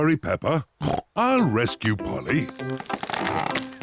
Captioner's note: tree creaks